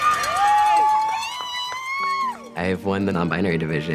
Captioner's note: cheering